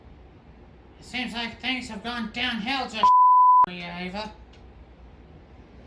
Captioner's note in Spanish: bip